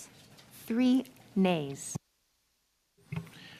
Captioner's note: speaking French